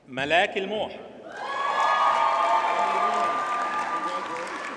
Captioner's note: audience cheers and applauds